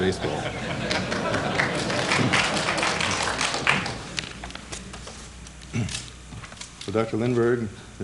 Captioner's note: applause